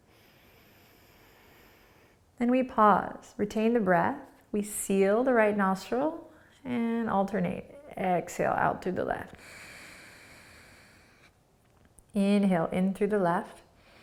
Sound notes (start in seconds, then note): 0.1 inhaling; 9.4 exhaling; 13.8 inhaling